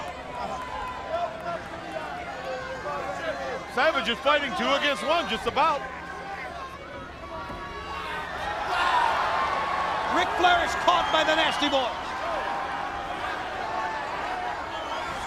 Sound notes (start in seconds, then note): 0.1 crowd chatter; 8.1 crowd cheering